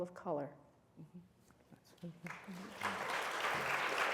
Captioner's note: applause